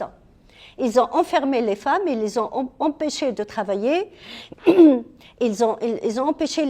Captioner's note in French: raclement de gorge